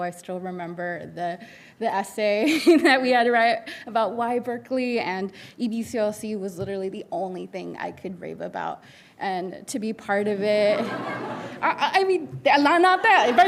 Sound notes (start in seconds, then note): 10.7 audience laughing